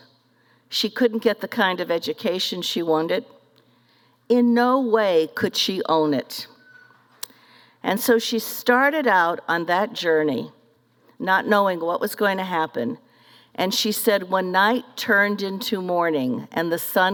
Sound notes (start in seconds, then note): none